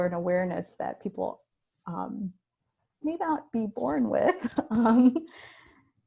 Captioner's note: chuckles